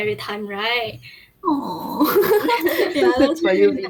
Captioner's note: laughs